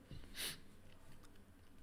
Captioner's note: sniffs